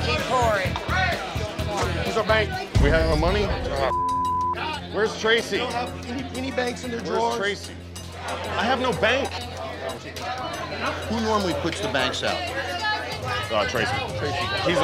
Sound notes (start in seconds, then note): 3.8 beep